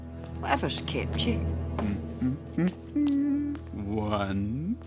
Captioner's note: humming happily